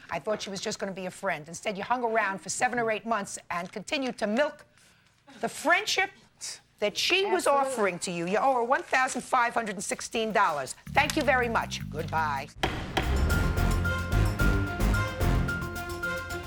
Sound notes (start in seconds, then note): 12.6 gavel thudding; 12.6 intense music